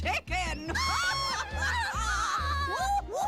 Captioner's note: laughing